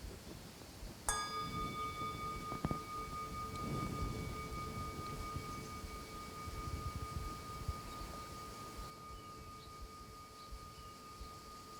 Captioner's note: bells